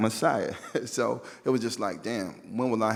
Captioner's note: laughs